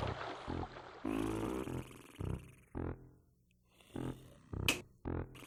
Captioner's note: Dreamer snoring loudly